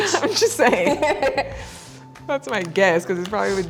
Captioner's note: laughs